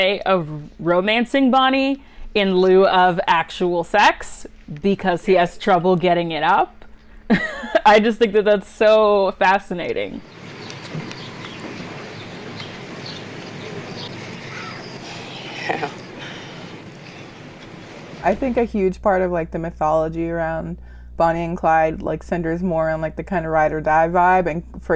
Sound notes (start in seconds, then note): 10.2 birds chirping; 14.2 breathy laughter